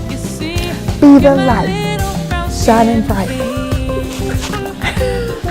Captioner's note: laughs